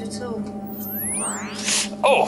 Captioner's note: zapping sound